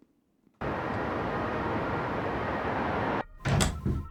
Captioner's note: sounds of city; door opening